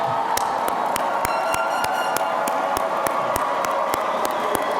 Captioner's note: air horn honking